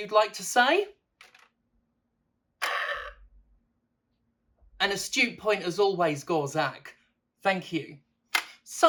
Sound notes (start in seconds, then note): 2.6 burp